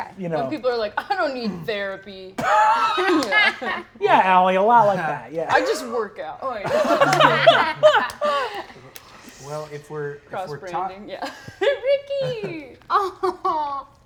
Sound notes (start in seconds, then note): 6.6 Brennan laughs